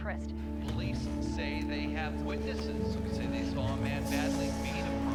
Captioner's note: TV announcer chattering